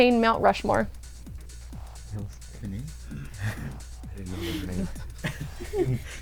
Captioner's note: wispering